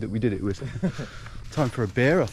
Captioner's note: chuckling